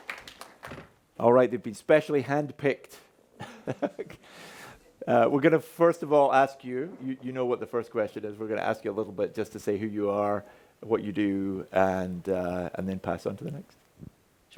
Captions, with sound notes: All right. They've been specially hand-picked. (chuckles) We're going to first of all ask you what the first question is. We're going to ask you a little bit just to say who you are, what you do, and then pass on to the next.